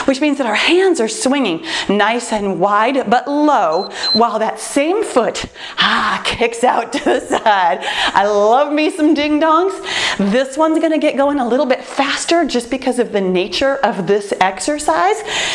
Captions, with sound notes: which means that our hands are swinging nice and wide, but low [timer beeps] while that same foot kicks out. [laughs] I love me some ding dongs. This one’s going a little bit faster, just because of the nature of this exercise.